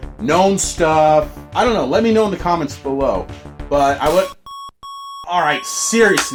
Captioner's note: continuous beeping